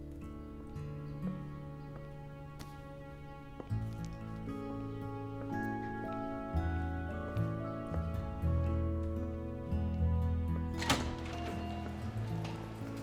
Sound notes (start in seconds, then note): 10.7 door clicks open